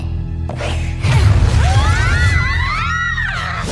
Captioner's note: screaming